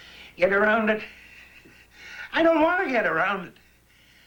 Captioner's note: panting